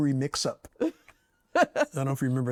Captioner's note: laughs